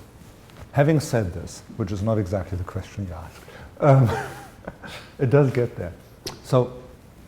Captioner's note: chuckle